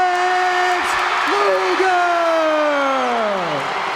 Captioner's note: crowd cheers